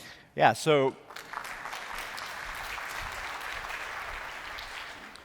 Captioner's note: applause